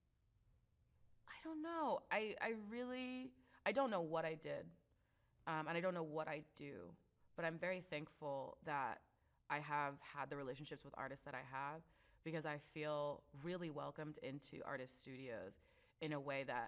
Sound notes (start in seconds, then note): none